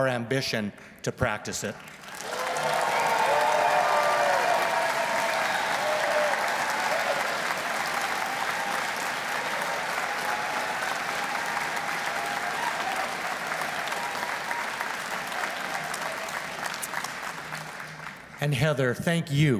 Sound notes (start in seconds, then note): 4.9 cheers and Applause